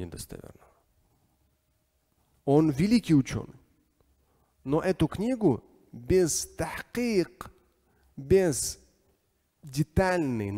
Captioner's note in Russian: говорит на арабском